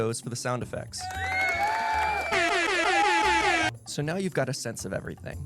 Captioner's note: sound of a crowd cheering, horn blowing multiple times